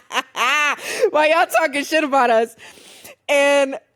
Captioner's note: laughs